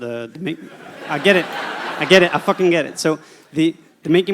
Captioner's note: audience laughter